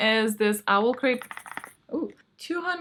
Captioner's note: rattle